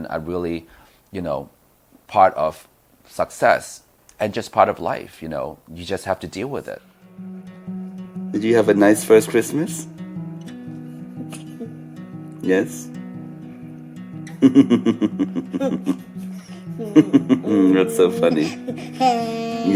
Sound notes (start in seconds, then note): 7.9 soft music; 11.2 baby laughing; 14.3 and baby laughing; 18.8 baby laughing